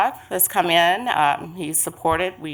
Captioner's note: multiple voices